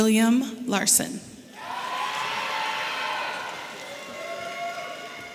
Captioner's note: audience cheering loudly